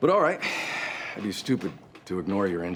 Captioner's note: draws a deep breath; exhales